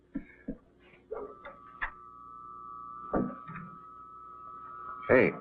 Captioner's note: whirring sound